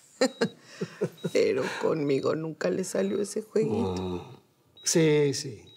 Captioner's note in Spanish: risas